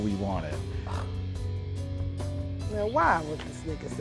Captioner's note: scoffs